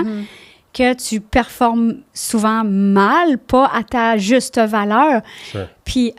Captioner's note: in french